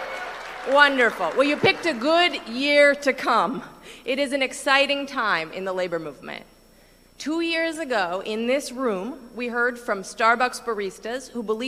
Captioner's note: cheering